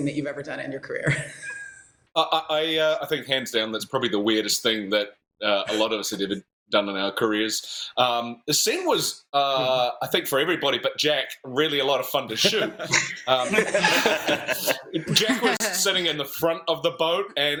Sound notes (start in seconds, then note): 12.3 laughter